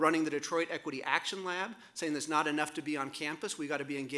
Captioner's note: none